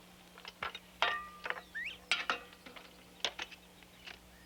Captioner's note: tools clanging